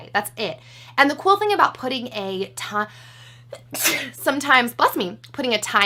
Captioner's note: sneezes